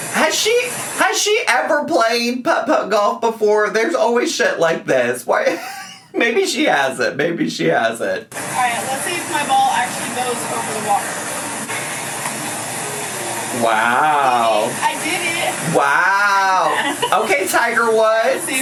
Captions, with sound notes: - Has she ever played put-putt golf before? There's always shit like this. What... (chortles) Maybe she hasn't. Maybe she hasn't. - All right. Let's see if my ball actually goes over the water. - Wow. - I did it. I did it. - Wow! Okay, Tiger Woods.